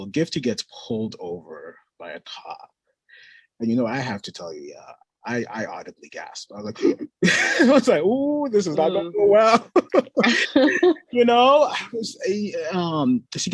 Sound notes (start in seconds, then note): 7.1 gasping; 12.4 laughs